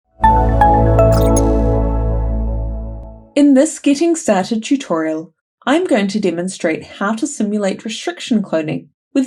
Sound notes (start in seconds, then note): 0.3 logo chiming